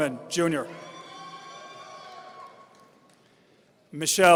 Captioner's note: audience cheering